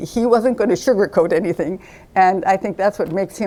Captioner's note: none